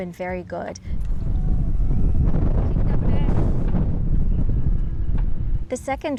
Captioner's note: wind distortion